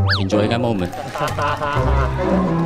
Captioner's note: laughing